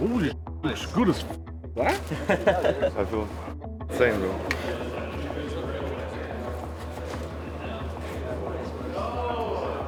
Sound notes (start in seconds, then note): 1.8 group laughing; 5.5 ambient chatter; 7.2 gentle music